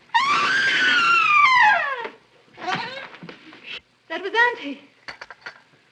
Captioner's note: screams